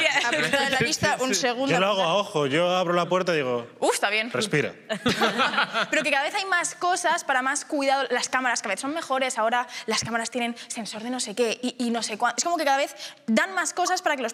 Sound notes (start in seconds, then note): 4.9 they laugh